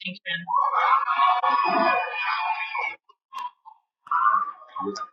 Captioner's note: cheering